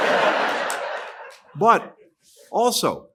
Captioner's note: laughter